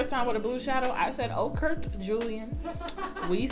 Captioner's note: off screen laughter